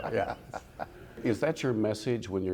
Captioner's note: laughing